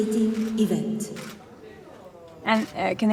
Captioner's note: participant faintly speaking; camera lens clicking